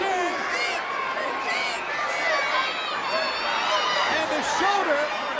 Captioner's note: crowd heckling